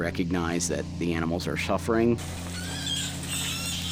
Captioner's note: squealing